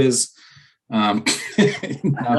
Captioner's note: laughter